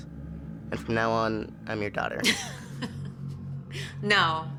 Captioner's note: Topaz's mom laughs